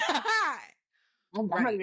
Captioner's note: laughing